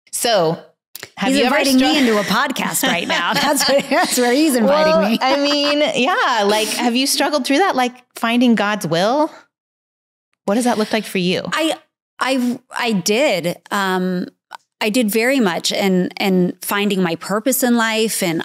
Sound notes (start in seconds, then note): 1.3 laughs